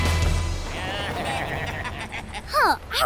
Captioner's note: baaing